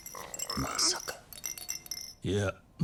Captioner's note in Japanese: 鼻息